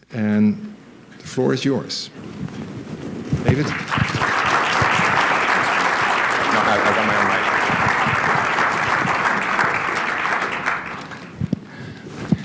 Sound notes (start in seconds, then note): 3.4 applause